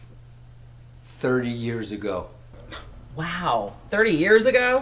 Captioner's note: scoffs